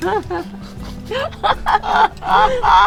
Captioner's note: both laughing